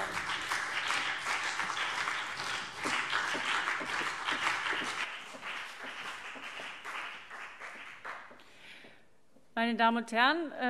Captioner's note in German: Beifall BÜNDNIS 90/DIE GRÜNEN und vereinzelt CDU